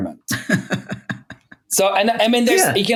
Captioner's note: laughing